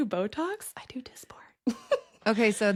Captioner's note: whisper